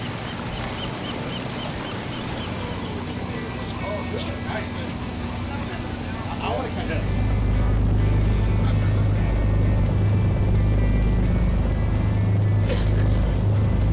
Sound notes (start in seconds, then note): 7.8 boat engine roars